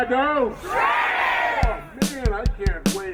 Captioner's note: crowd